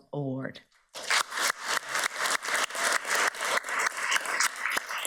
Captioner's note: everybody applauds